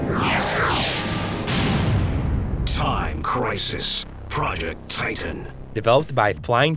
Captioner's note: game audio